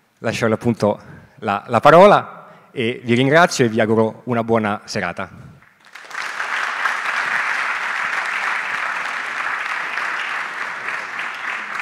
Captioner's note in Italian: Applauso